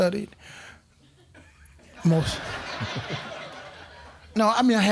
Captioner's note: crowd laughing